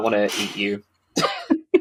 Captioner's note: laughs